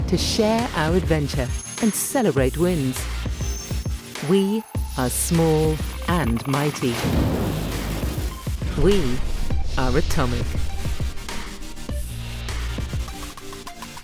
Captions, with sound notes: to share our adventure and celebrate wins. We are small and mighty. (loud explosion) We are Atomic. (bubbly music continues)